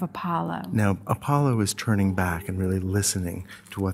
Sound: voiceover

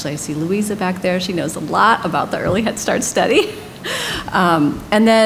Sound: laughter

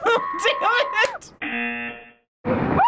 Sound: buzzer

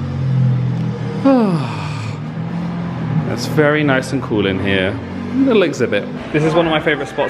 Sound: sighs

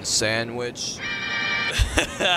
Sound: playful music; caller laughs

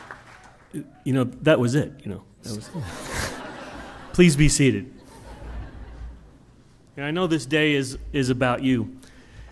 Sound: laughter

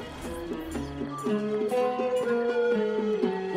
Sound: party noises

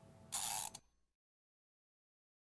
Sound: gear winding

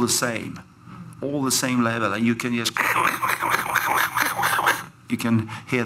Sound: makes sound, KRKRKRKR

